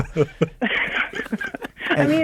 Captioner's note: laughing